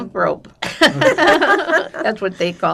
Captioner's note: laughing